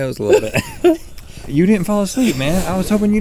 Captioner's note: both laughing